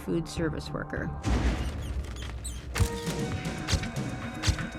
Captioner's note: mice squeaking